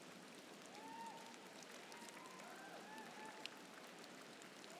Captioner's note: audience cheering